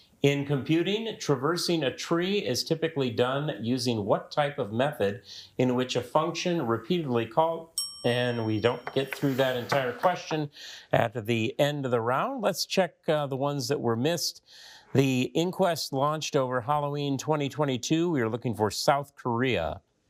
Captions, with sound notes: In computing, traversing a tree is typically done using what type of method in which a function repeatedly called. (timer dings) And we don't get through that entire question at the end of the round. Let's check the ones that were missed. The inquest launched over Halloween 2022, we were looking for South Korea.